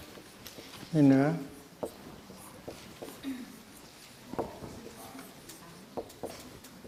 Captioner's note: board writing